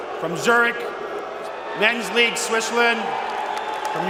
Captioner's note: whistlin